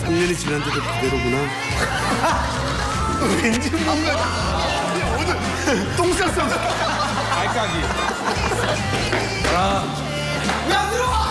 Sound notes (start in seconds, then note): 6.3 laugh; 7.2 basement 3rd lvl is filled with laughter